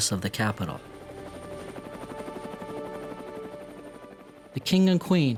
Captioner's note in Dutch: helikoptermotor draait